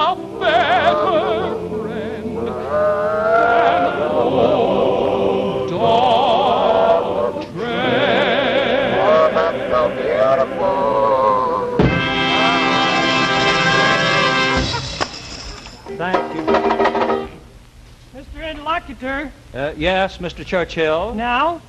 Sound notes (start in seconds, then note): 12.9 bells jingling; 15.8 banjo strumming